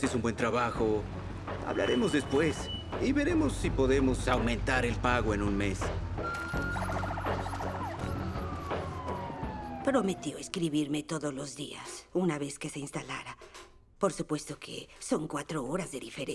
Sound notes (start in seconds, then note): 6.2 sirens blaring